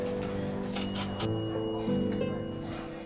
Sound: restaurant bell chimes

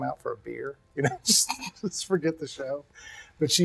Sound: laughs

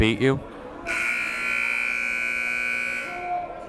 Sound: buzzer

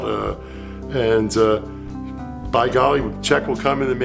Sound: none

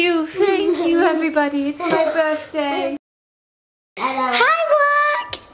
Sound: laughs

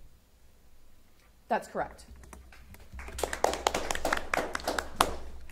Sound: audience applauding

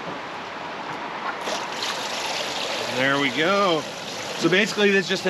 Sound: water flowing

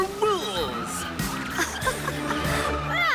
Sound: Cavu laughs

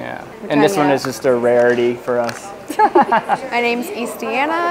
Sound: laughs

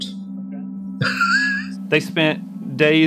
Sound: laughing

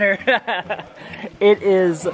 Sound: laughs

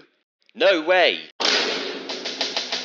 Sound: vine thud sound effect

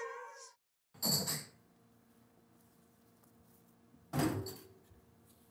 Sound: glasses jingling

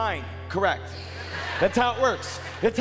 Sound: crowd laughing

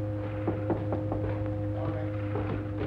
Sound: knock on door

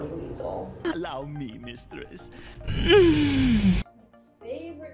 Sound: moaning

